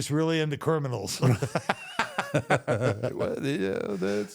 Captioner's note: both laugh